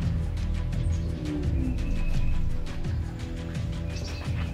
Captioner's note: birds chirping